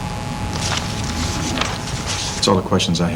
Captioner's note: papers rustling